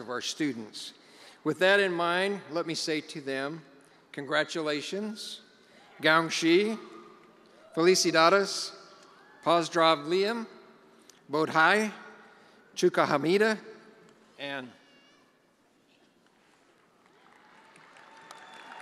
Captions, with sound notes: of our students. With that in mind, let me say to them, congratulations, (speaking in foreign languages)